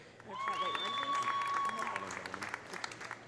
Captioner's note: audience applauding; audience cheering